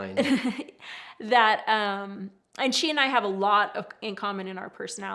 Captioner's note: chuckles